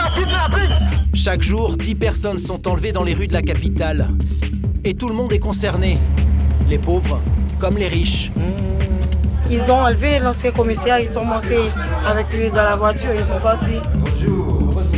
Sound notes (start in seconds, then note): 9.4 French spoken audio